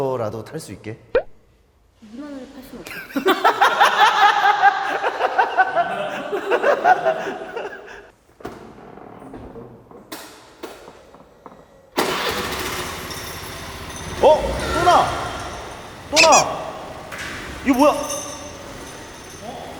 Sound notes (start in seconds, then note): 12.5 the fake sound comes again with the engine on